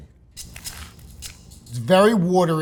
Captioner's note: sandwich rustling; upbeat music